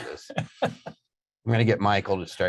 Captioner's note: laughing